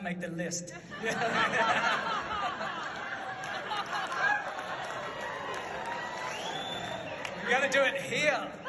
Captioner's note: audience laughs